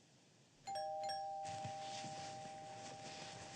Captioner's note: doorbell rings